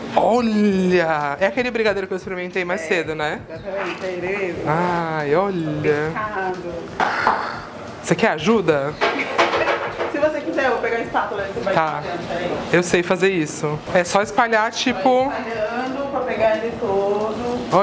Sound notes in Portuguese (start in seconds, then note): 9.6 risos